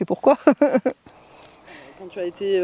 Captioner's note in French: Rires